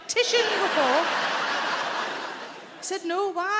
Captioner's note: audience laughing